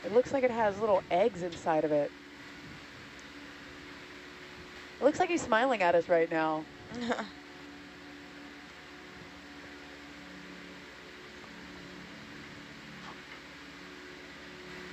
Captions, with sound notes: It looks like it has little eggs inside of it. It looks like he's smiling at us right now. (someone chuckles) (quiet peaceful music)